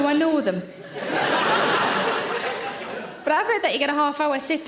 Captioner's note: audience laughing